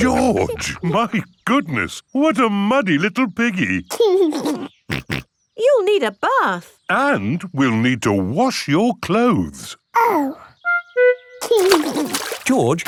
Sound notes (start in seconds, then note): 4.3 giggles and snorts